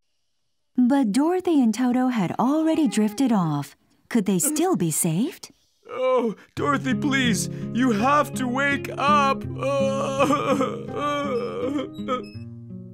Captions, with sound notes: But Dorothy and Toto had already drifted off. Could they still be saved? Dorothy, please, you have to wake up...(Sob)